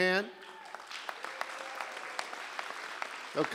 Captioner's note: applause